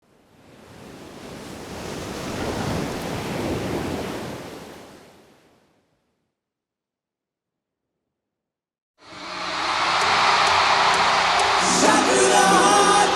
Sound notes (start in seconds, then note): 0.3 waves crashing; 9.0 crowd cheering